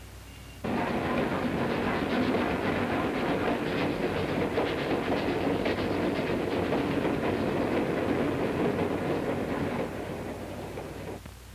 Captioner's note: train sounds